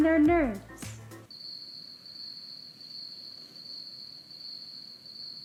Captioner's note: crickets chirp